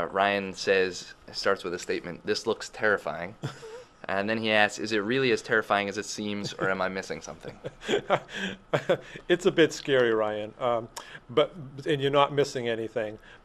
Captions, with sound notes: Ryan says, starts with a statement, this looks terrifying, and then he asks, "Is it really as terrifying as it seems or am I missing something?" >> [Laughing] It's a big scary Ryan, but and you're not missing anything,